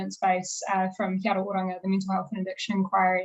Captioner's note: speaking foreign language